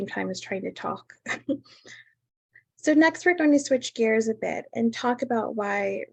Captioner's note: laughter